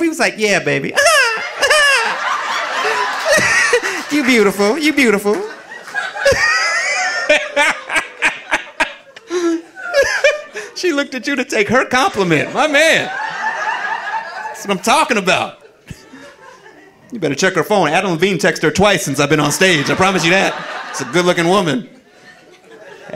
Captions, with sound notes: He was like, "Yeah, baby. (high pitched laugh) You beautiful, you beautiful." (audience laughing) She looked at you to take her compliment. My man, that's what I'm talking about. You better check her phone. Adam Levine, text her twice since I've been on stage. I promise you that. (audience laughing) She's a good looking woman.